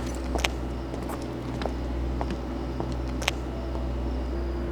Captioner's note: footsteps following behind